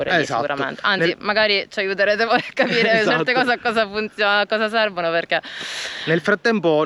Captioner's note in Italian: risate